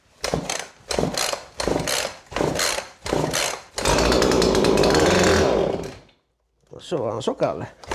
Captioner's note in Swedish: Motorljud